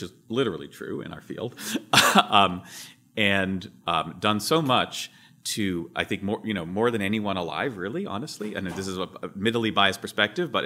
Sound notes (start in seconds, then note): 1.8 laughs